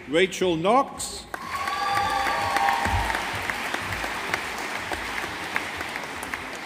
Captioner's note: audience applauding